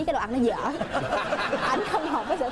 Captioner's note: laughs